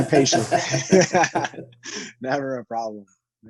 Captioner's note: both laughing